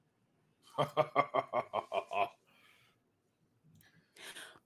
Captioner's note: laughs